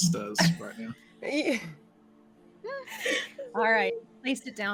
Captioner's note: laughing